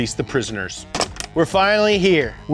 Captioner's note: hangs up telephone